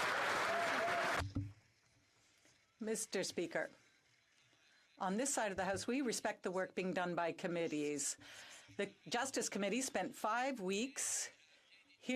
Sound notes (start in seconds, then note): 0.0 some Applause; 5.1 speaking French